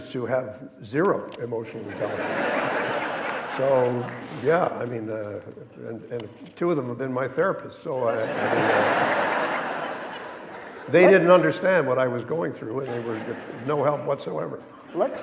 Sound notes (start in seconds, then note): 8.1 audience laughing